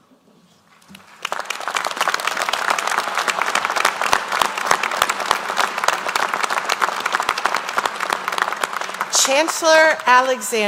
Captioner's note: applause